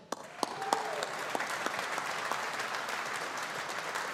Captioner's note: audience applauding